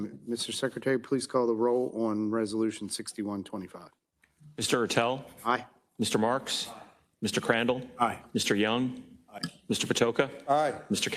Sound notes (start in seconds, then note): none